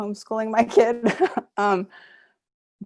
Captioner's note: laughs